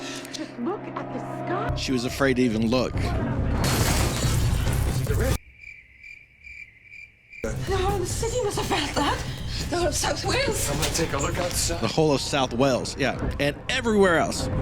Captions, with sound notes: She was afraid to even look. [crickets chirping again] The whole of South Wales. Yeah, and everywhere else!